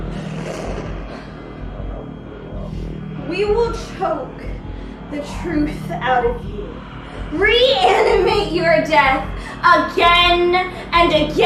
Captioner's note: whoosh